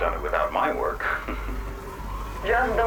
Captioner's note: chuckles